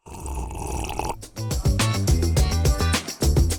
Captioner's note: nasal sound